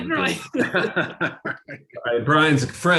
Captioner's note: laughter